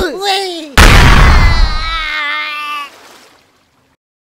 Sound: screaming

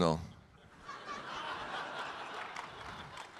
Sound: audience laughing; audience clapping

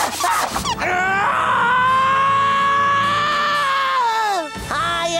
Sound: screaming

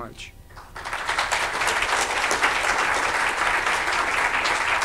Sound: audience applauding

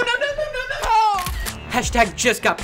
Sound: camera shutter clicks

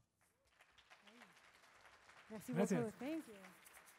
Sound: audience claps

